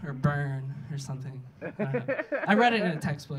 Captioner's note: audience laughing